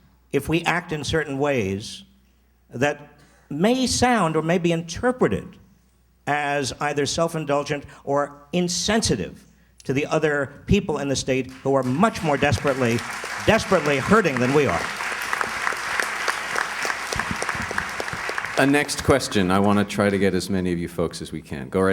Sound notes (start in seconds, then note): 14.9 applause